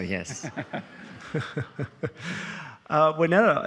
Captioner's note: all laughing